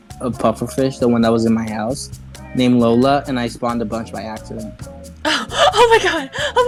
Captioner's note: gasp